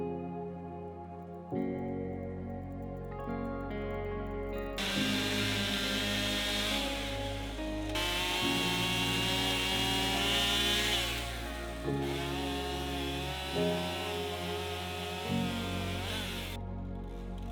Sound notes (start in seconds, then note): 4.8 chainsaw roaring